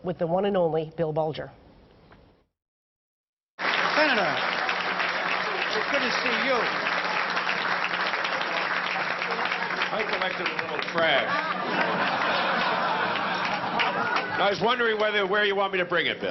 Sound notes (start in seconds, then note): 7.2 applause